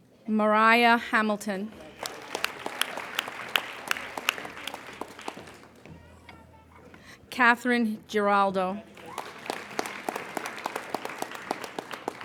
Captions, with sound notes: Mariah Hamilton. (applauding) Catherine Geraldo. (applauding)